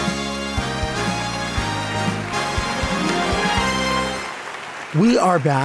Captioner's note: upbeat music; audience clapping